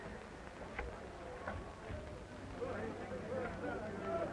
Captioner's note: people chattering